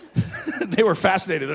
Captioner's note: laughing